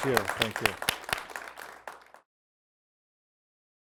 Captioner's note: applause